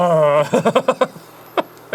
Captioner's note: laughing at his own disgust